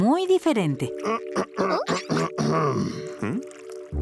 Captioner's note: clearing throat